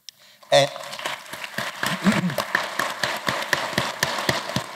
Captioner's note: applause